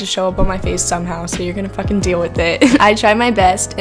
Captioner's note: laughs